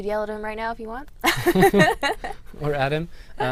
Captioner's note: laughter